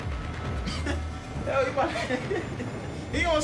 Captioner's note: laughs